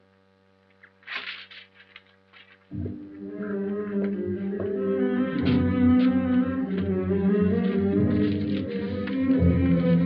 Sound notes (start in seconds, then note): 0.8 sound of paper; 5.0 suspenseful music